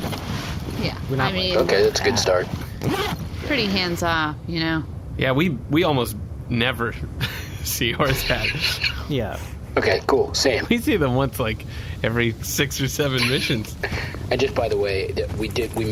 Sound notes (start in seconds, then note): 5.1 laughing